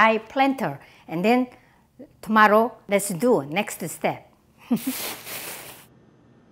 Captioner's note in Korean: 웃음